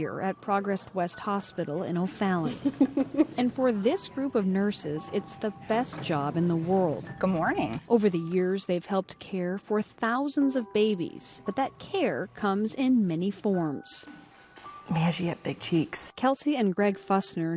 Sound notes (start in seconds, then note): 2.5 nurse chuckling